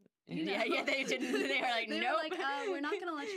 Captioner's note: laughing together